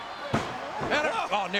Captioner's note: referee tapping